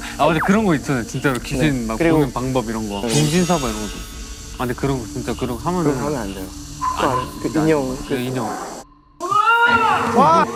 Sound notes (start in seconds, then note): 8.1 creaking